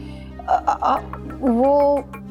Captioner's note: stammering